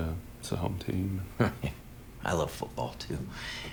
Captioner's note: chuckles